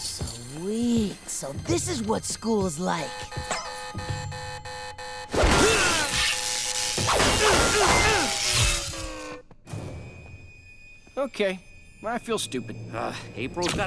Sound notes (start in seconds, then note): 3.0 beeping; 5.4 grunting, beeping; 8.0 beeping stops